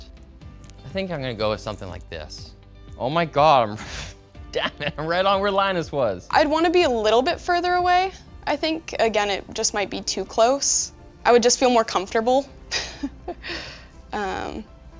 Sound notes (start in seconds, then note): 4.6 chuckles; 12.7 giggles